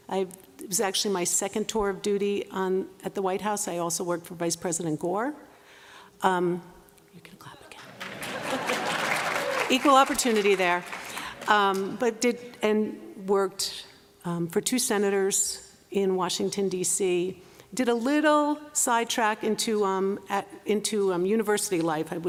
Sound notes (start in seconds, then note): 6.7 whispering; 7.9 laughter, applause